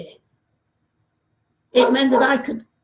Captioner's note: dog barking